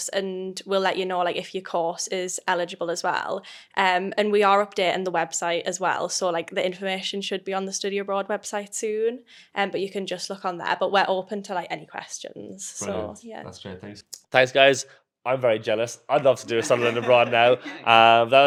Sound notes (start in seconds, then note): 16.1 everyone giggling